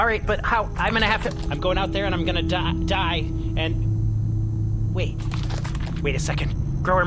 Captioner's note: panicked scurrying; purposeful scurrying